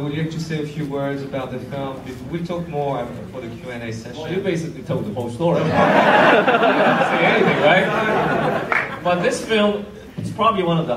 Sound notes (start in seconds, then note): 5.6 audience laughs